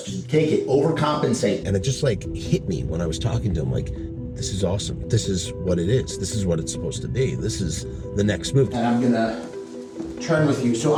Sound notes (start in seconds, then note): none